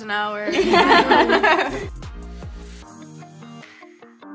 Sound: girls laugh

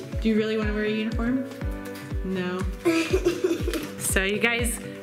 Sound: laughing

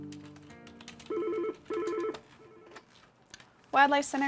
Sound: phone ringing

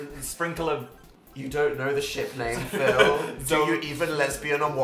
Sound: laughs

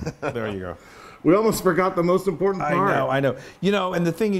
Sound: laugh

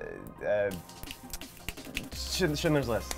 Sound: snapping

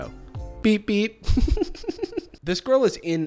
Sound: snickers

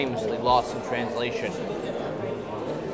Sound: none

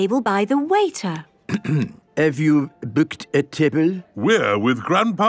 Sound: clears throat

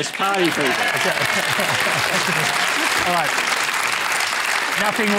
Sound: cheering and applause

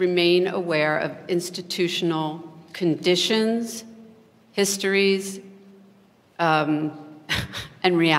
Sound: laughs

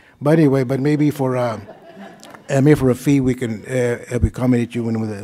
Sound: laughter

